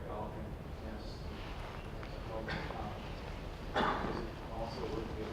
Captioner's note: coughing and shuffling